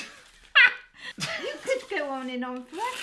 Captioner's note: laughing